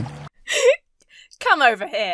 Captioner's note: inhales sharply